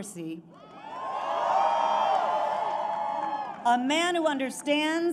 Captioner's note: applause